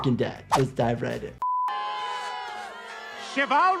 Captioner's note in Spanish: audiencia burlándose